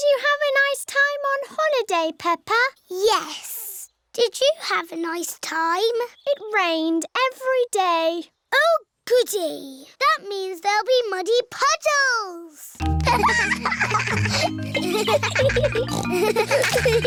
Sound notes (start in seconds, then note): 12.8 giggling; 15.5 peppa snorts